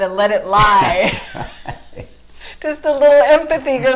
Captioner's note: laughing